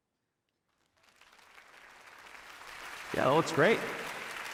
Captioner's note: audience applauding